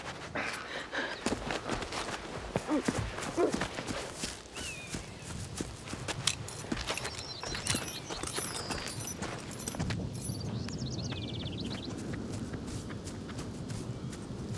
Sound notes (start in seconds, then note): 10.3 wind blowing; 12.5 birds chirping